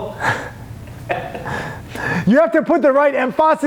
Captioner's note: laughs